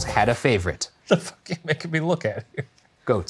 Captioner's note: laughing